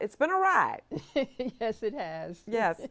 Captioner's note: chuckling